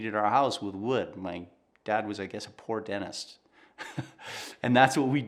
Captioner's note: laughing